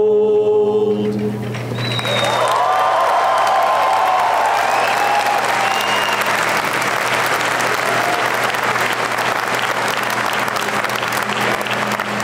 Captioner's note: applause and cheering